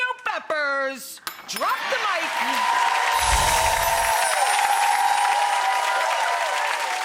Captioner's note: people cheering